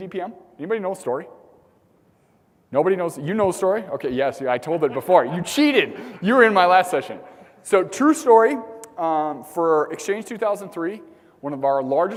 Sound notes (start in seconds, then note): 4.5 laugh